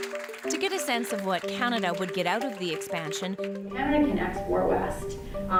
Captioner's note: applause